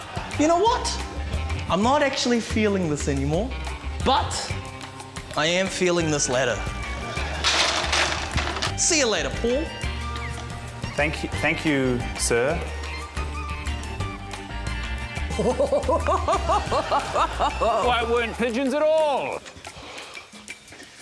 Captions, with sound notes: - You know what? I'm not actually feeling this any more. But... I am feeling this ladder. See you later, Paul. - Thank― Thank you, sir. (QUIRKY WOODWIND MUSIC) - (CHUCKLES LOUDLY) - Why there weren't pigeons at all!